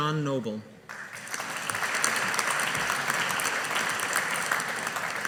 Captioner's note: audience applauding